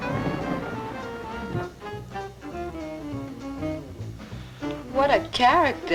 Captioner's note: elevator doors opening